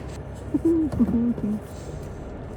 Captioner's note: joyful noises